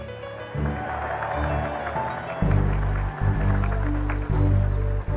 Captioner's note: audience applauds